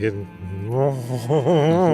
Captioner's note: humming